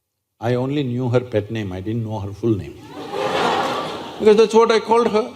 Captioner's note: laughter